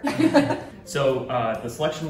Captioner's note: all laughing